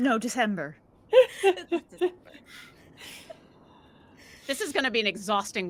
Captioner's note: laughs out loud; speaks faintly